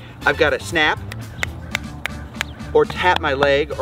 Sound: fingers snapping

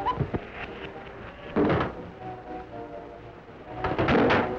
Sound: whistle blows; clanks and thumps

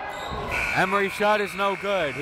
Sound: buzzer

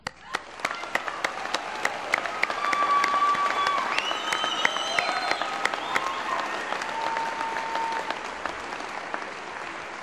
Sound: applause

